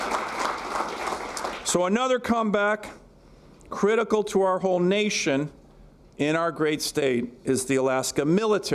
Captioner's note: applause